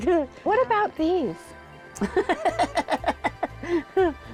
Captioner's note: laughing